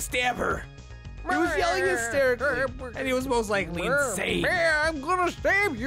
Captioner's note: hysteric dino babbling